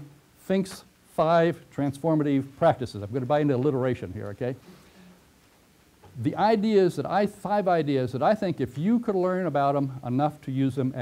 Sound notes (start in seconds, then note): 5.8 pause